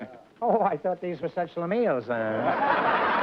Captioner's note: non-english; laughter